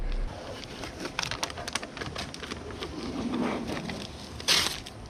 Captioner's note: plastic tearing